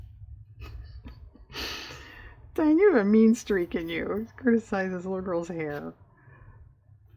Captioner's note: laughs